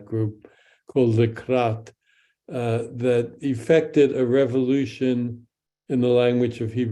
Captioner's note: speaks in Hebrew